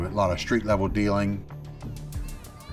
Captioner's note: children shouting